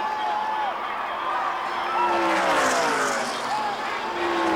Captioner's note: crowd roars